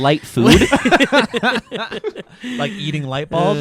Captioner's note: all laughing